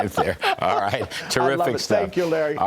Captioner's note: laughter